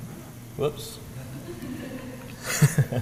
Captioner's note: laugh